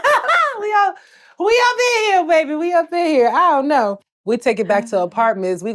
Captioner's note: laughs